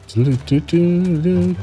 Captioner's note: humming